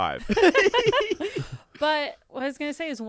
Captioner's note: everyone laughs